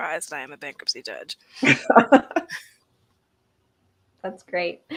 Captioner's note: laughter